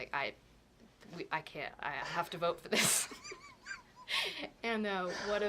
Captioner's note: laughter